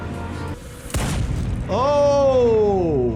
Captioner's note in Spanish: disparo de arma